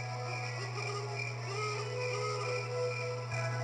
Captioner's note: owl Hooting